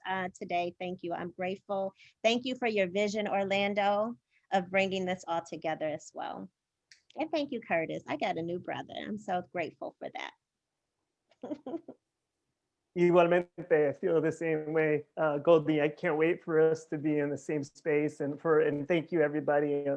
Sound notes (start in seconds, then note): 11.4 laughter